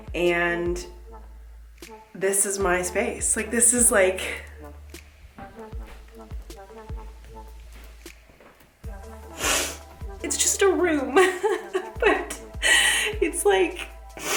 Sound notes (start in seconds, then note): 8.3 sobs